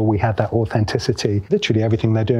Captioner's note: none